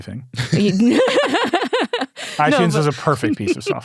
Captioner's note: laughs